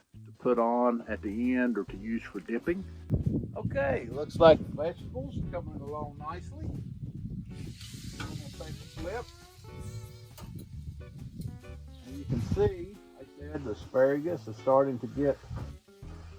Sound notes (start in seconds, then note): 6.8 griddle sizzling; 6.8 wind blowing